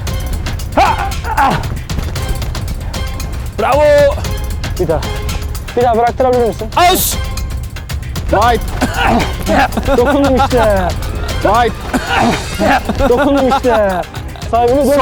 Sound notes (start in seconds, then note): 10.6 hahahaha; 14.5 hahahaha